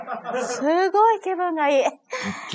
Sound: laughs

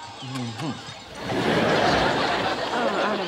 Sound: audience laughing

